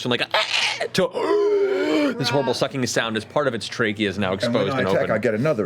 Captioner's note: moan